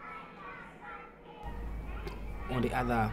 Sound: kids chanting

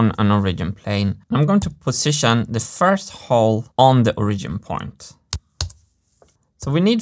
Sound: mouse clicks

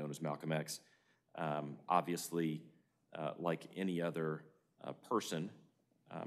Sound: none

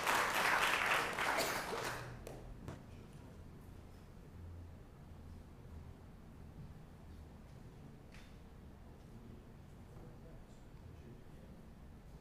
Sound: applause

